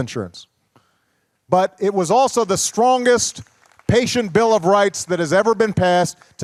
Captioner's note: applause